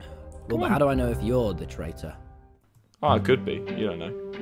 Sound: none

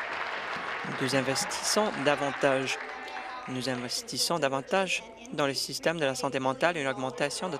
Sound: applause

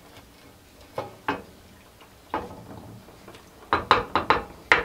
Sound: pot clanks against stove

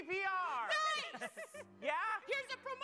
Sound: laughs

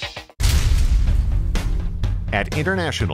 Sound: sound of steel crashing

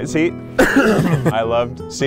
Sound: coughs

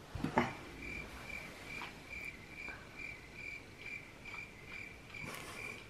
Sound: grasshoppers

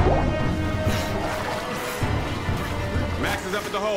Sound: gasping

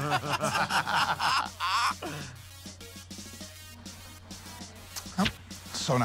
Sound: chuckles; laughter

